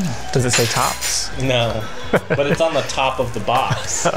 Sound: laughs

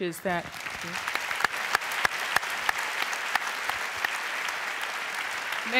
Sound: applause

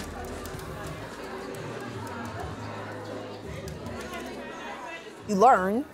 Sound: crowd of voices in background

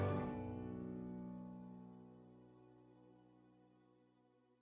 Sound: cheers and applause

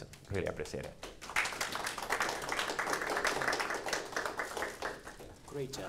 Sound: audience applauding

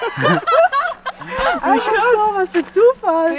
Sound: laughter

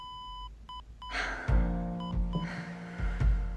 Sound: heart monitor flatlining; heart monitor beeping

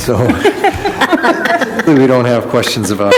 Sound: laughing

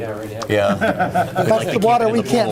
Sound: laughter

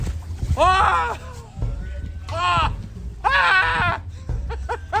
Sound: groaning and screaming

